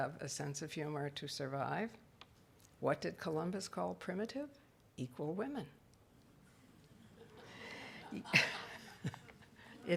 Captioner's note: audience laughing